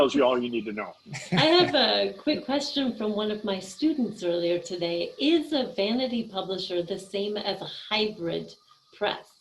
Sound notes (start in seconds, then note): 1.1 laughing